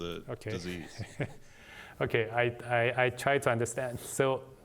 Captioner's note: laughter